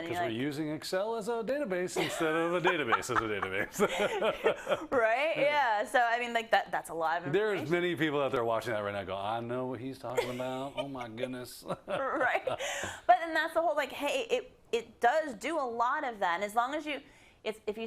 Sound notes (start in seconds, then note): 2.0 laugh; 10.7 laugh